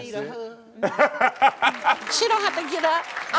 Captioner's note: Karamo laughing